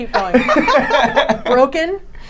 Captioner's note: laughing